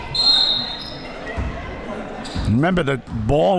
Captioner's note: whistle blowing